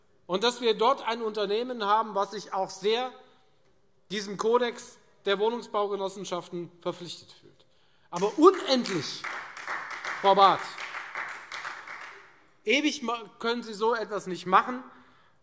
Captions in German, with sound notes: und dass wir dort ein Unternehmen haben, das sich diesem Kodex der Wohnungsbaugenossenschaften sehr verpflichtet fühlt. [Beifall Freie Demokraten] Frau Barth, ewig können sie so etwas nicht machen.